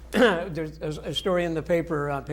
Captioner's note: chuckling